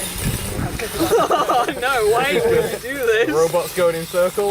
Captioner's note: laughter